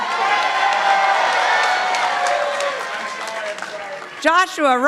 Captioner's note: participants applauding